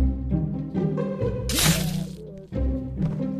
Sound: stab

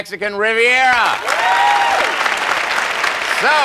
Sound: applause

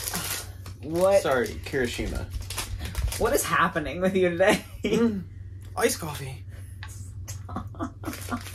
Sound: moans

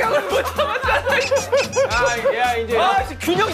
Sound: ha ha ha

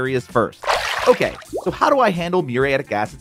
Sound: graphics sploshing; graphics popping

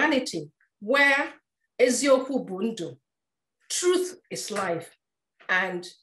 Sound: speaking in foreign language

